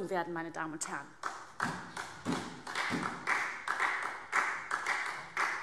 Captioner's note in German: Beifall SPD